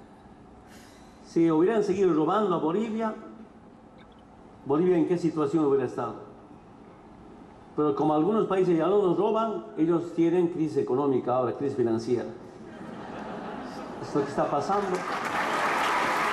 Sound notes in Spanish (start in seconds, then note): 12.7 Risas- aplausos